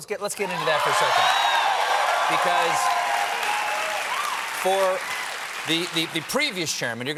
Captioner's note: cheers and applause